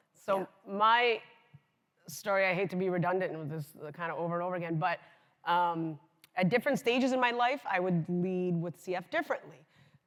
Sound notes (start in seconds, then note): none